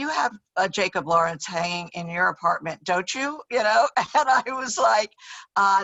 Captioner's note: laughs